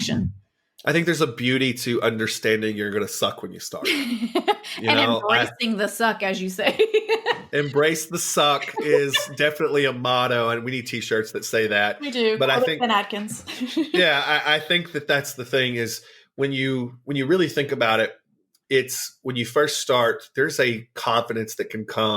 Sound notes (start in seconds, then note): 6.6 laughs